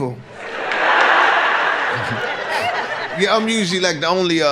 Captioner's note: audience laughs